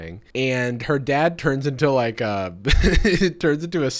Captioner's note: laughs